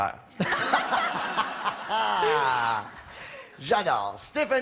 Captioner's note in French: rires